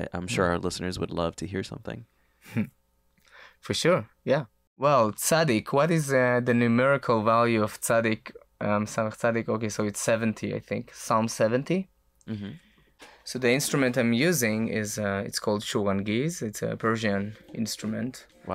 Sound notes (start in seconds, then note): 8.2 speaks in foreign language